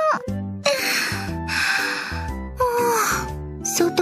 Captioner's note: Yawn